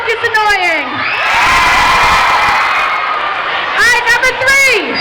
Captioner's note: crowd shouting